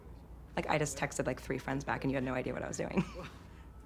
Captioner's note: chuckles